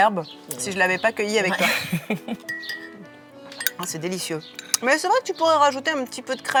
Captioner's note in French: rires